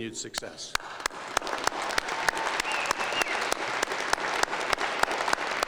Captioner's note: applause and cheering